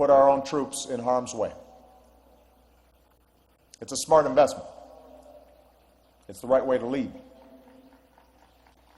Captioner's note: applause